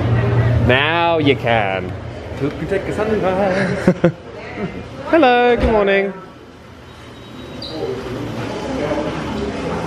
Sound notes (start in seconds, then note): 3.4 laughs